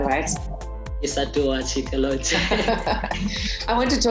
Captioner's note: laughs